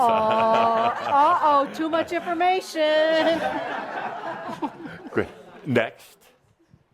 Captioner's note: laughter